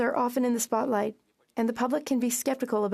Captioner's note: speaking French